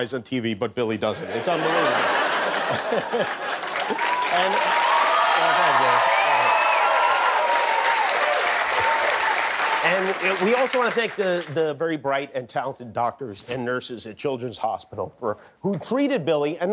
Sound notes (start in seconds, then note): 4.3 laughter; 4.6 applause